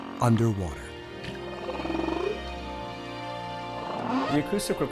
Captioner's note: whales calling